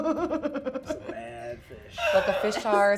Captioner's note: laughing